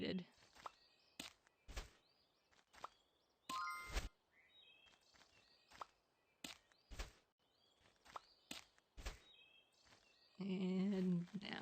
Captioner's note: sound effects